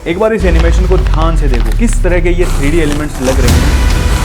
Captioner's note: nasal sound